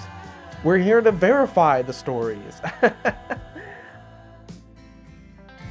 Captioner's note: laughing